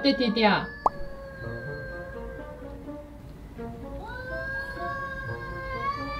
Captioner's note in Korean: 고양이 싸우는 소리